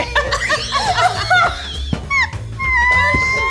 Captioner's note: all laughing